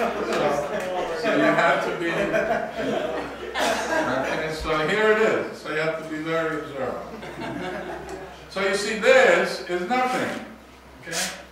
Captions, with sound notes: So, you have to be. Okay, so here it is. So you have to be very observant. (students laugh) So you see this is nothing.